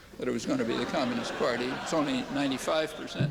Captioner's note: laughter